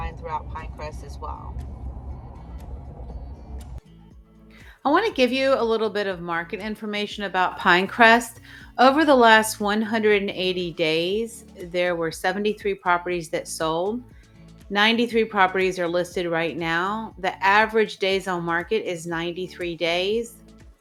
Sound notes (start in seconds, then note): 2.1 car humming; 2.1 upbeat music